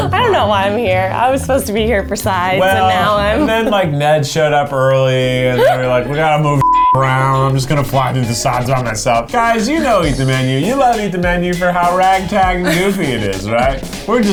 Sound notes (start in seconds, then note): 6.6 beep